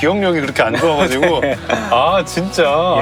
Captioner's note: hahaha